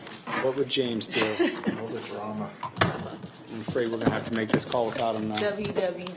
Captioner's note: laughter